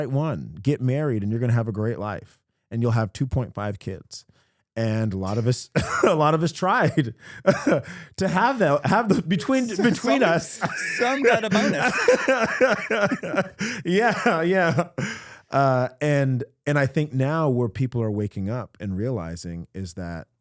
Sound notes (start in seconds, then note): 13.5 both Laughing